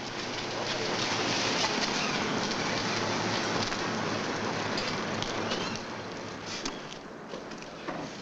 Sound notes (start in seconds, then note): 0.8 car rumbling